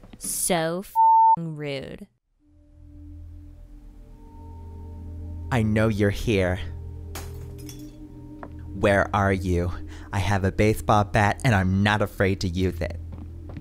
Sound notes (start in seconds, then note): 0.9 beep; 4.4 eerie music; 7.1 glass crashes; 13.0 footsteps